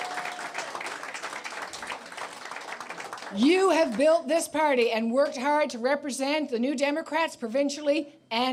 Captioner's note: applause